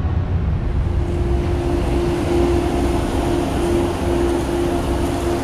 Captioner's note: engine rumbling